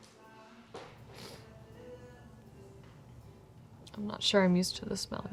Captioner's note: Fern sniffs